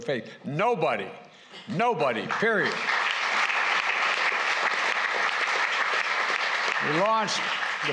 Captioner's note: applause